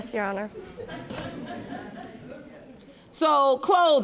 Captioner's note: audience laughing